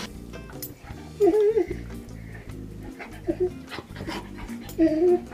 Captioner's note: dog whining and panting